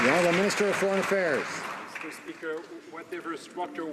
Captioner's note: some Applause